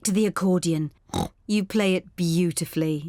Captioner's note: snorts